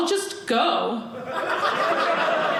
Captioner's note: audience laughing